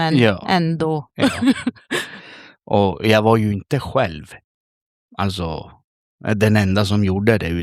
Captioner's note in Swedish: skratt